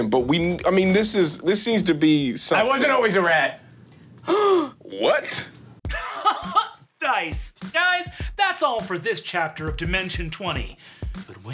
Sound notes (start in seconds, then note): 4.2 gasps; 5.9 laughs